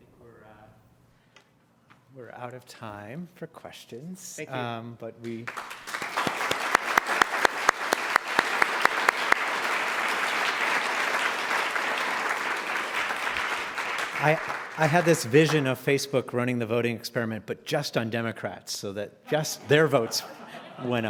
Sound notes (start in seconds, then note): 9.4 applause; 20.8 laugh